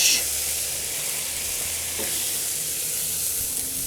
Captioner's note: burgers sizzle